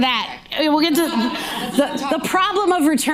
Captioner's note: audience laughing